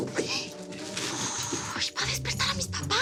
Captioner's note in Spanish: Sonido al cerrar la puerta; Ruido al caer un zapato; Susurra